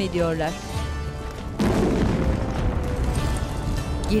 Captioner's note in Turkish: Patlama sesi